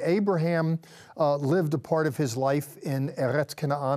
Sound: speaking in Hebrew

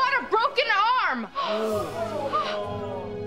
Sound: crowd gasping

